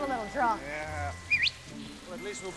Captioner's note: whooping; whistles